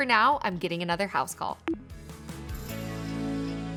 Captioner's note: notification beeps; upbeat music fades